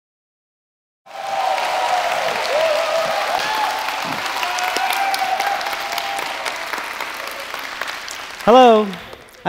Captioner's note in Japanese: 拍手と歓声